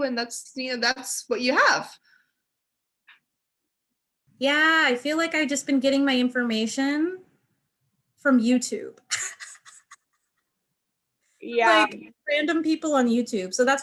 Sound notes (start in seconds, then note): 9.1 laughing